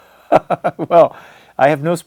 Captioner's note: laughs